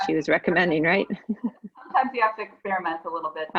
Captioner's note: chuckles